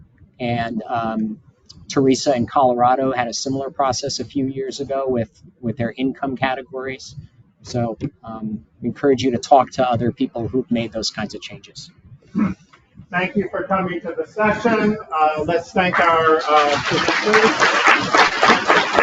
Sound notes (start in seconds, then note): 15.9 audience applauding